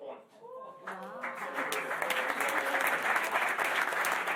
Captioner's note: applause